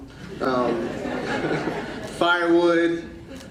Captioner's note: audience laughing